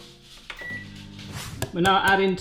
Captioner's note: beep